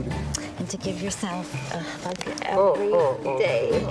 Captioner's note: cracking